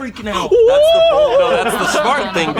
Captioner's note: cheering